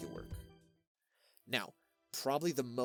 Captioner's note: breath